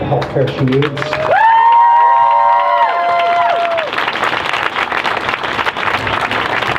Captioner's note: crowd cheers